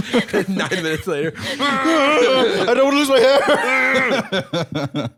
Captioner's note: laughs; groaning; laughing